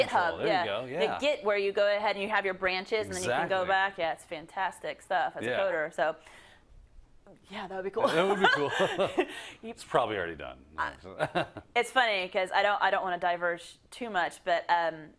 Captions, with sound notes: -Yeah, there you go, yeah. -Like Git where you go ahead and you have your branches, and then you can go back. -Exactly. -Yeah, it's fantastic stuff. -Yeah. -So, yeah, that would be cool [LAUGH]. -It would be cool [LAUGH]. It's probably already done [LAUGH]. -It's funny cuz, I don't wanna diverge too much, but